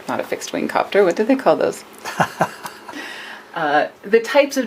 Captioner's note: laughter